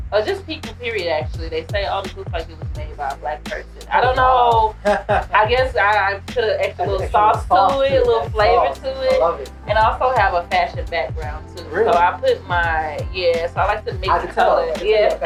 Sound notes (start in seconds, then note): 3.8 laughing